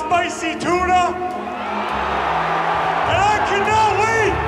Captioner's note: cheers